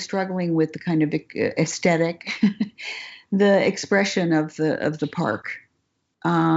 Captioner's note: laughs